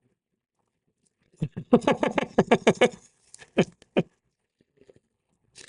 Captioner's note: Harrison laughing